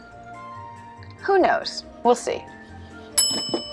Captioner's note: ding